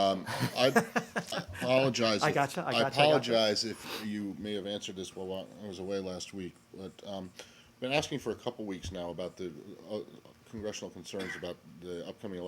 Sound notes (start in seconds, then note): 0.2 laughter